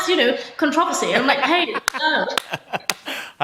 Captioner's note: laughter